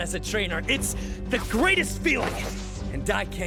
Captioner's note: dramatic cape swoosh